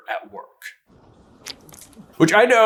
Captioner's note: splurts